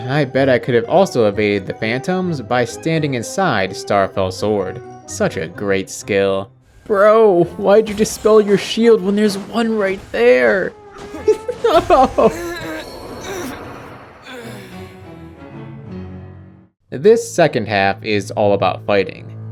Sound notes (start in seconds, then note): 11.0 laughing